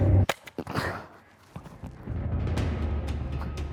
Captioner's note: gun shooting